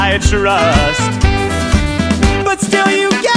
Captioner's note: horn